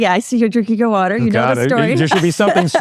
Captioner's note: laughs